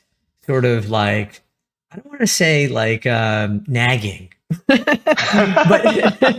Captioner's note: laugh